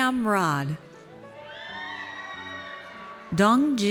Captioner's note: audience cheers